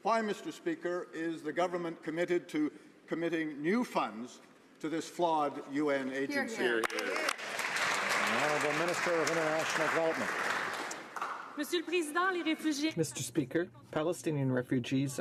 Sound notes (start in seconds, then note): 10.4 some Applause